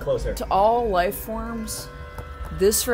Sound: ominous noises

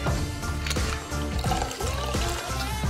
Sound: bottle opens

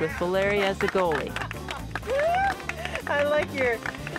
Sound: cheers and applause

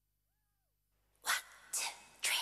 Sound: silent

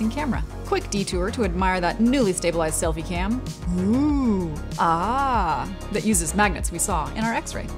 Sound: ooh ahh

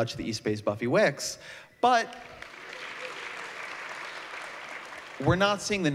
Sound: applause

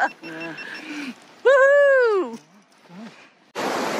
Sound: laughing; cheers; water rushing

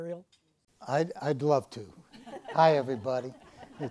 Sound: audience laughs

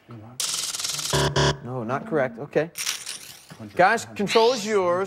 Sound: buzzer

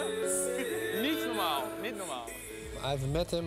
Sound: speaks in foreign language

